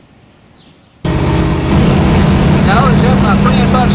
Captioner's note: car engine roars